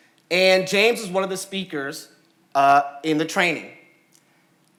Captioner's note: none